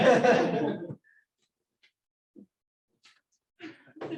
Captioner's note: laughter